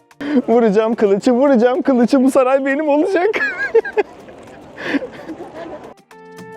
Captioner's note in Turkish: kahkaha